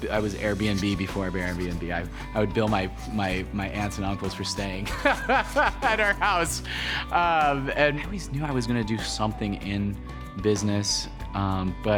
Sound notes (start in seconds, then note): 4.9 laughs